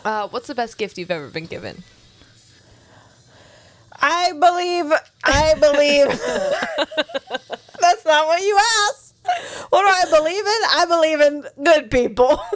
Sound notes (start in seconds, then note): 5.3 laughing